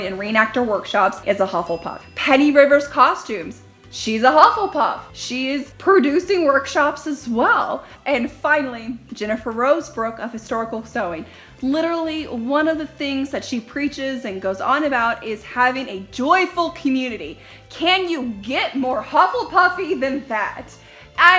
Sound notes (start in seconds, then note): 4.4 dings